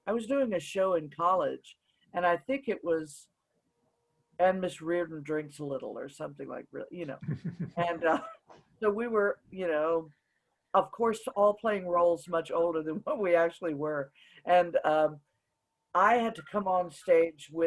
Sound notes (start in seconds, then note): 7.2 chuckles; 7.2 laughs